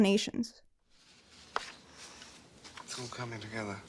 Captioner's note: papers smack on table